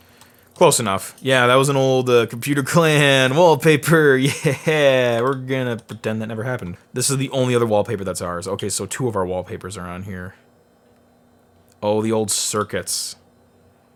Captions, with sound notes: Close enough. Yeah, that was an old Computer Clan wallpaper, yeah (laughing) we're gonna pretend that never happened. This is the only other wallpaper that's ours. Okay, so two of our wallpapers are on here. Oh, the old circuits.